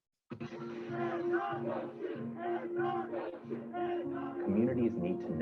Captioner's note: crowd protesting